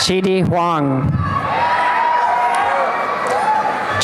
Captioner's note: applause and cheering